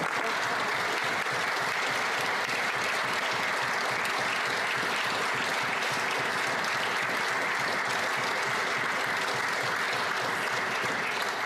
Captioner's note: applause